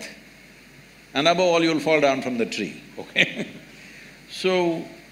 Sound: laughs

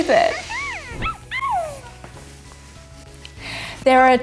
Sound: toy squeaking

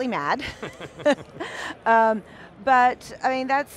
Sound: laughing

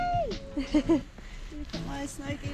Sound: giggle

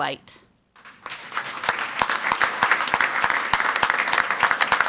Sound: crowd clapping

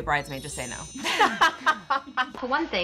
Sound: laughs

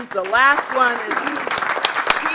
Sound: applause

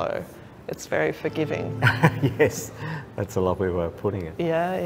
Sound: laughs

